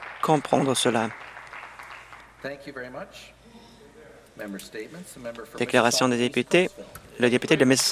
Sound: some Applause

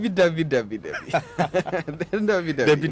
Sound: embarrassed laughter

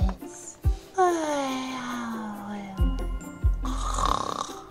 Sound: Bubbles snoring

